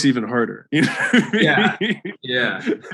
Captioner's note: Alex laughs